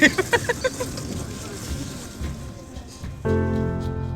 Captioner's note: laughing; dramatic music